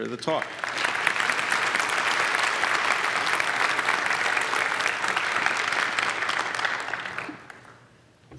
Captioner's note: applause